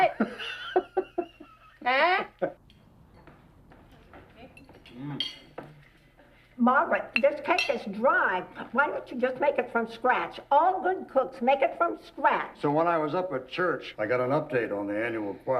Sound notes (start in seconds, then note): 0.1 laughing